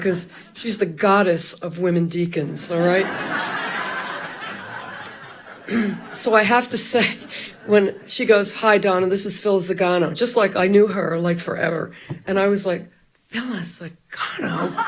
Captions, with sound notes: Cause she's the goddess of women deacons, all right? (Audience loughs loudly) (clears throat) So I have to say, when she goes, "Hi, Donna, this is Phillis Zagano". Just like I knew her like forever. And I was like, Phyllis Zagano!"